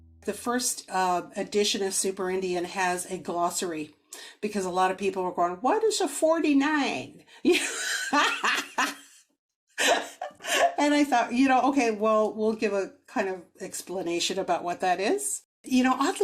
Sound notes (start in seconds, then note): 9.8 laughs